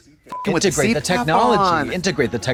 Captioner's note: beep